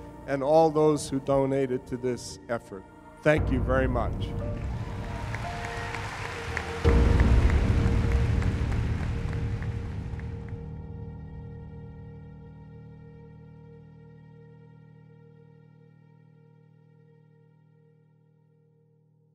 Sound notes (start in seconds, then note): 4.4 audience clapping